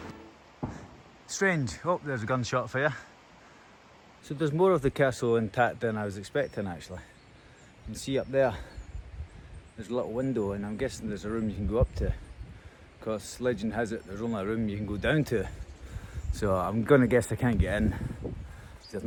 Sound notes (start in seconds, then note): 0.0 bang